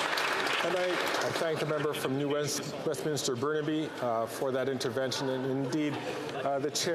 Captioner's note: some Applause